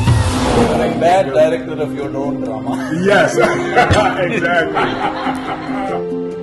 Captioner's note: laughter